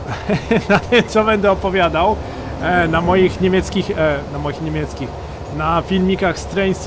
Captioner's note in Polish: śmiech